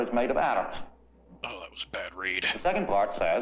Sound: as guy, quietly

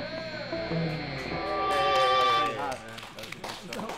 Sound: applause

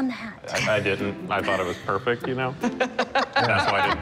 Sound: laughter

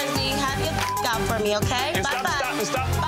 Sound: beeps

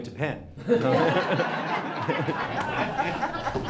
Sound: laughing

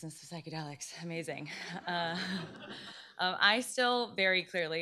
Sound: laughter

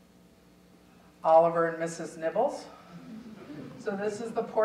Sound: audience chuckling

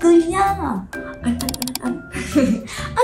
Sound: click click click

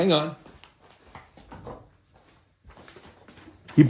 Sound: footsteps

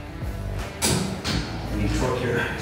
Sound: torque wrench clicks

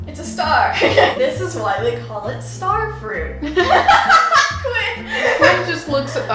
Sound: loud laughter

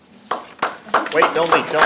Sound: audience clapping

